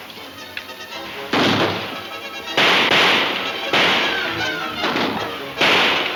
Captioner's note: guns firing; dramatic music